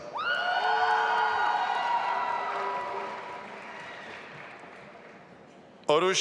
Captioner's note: audience applauding and cheering